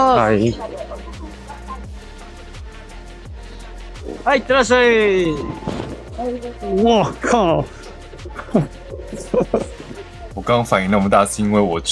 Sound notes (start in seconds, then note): 8.4 sarcastic laugh